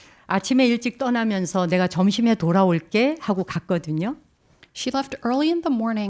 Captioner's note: speaking in Korean